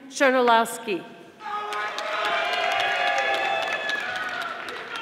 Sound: audience applauding

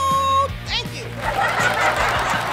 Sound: applause/laughter

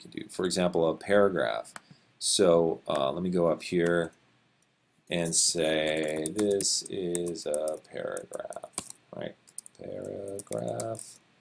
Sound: typing

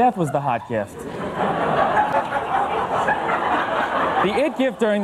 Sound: audience laughs

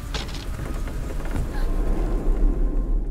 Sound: Anne gasps

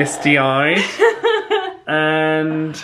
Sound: laughs

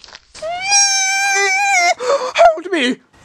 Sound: squeals like a Pig

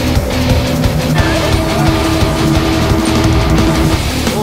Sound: chattering

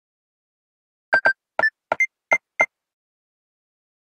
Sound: sound of pressing a security code

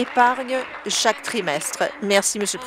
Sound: applause

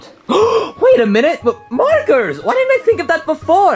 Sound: gasps

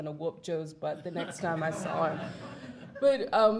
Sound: audience laughs

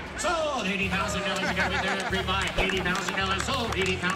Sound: auctioneer chant

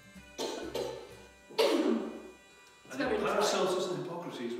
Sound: coughs

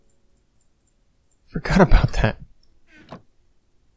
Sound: chuckling

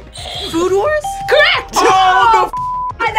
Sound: bell rings; buzzer rings

